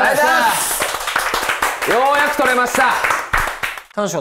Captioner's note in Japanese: 拍手